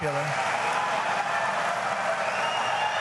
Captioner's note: cheering continues